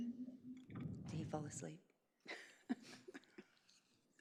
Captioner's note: chuckles